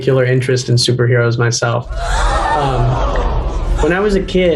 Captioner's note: people gasping